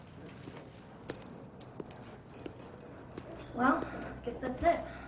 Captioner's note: keys jingling